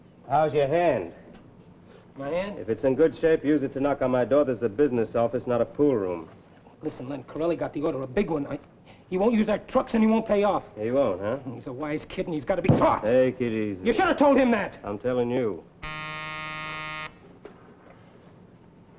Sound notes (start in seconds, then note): 12.6 hand thuds; 15.8 phone buzzes